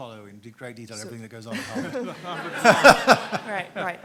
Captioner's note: everyone laughs